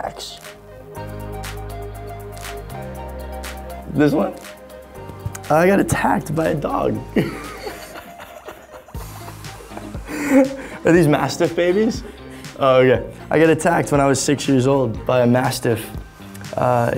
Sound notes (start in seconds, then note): 1.0 upbeat music; 7.1 laughing